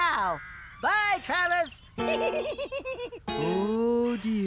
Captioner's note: giggling